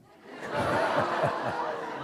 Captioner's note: laughter